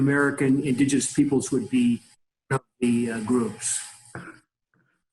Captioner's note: audio skips